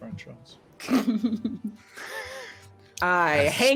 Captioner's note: people laughing